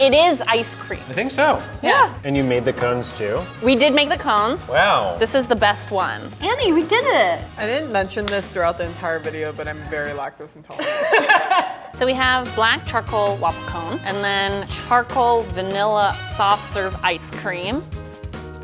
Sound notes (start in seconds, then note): 10.8 laughing